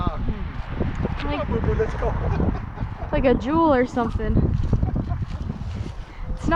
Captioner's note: laughs